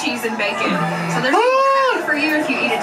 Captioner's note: laughs